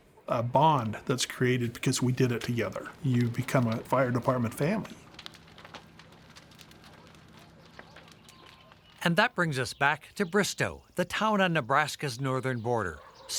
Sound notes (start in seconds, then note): 6.5 birds chirping; 7.0 fire crackling